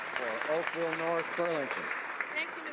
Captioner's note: some Applause